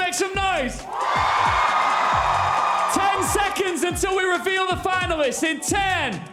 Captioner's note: cheers and applause